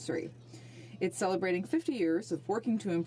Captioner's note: speaking French